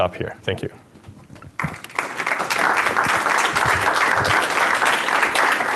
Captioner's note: applause